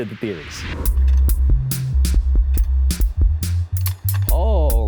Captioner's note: slide projector clicks; upbeat music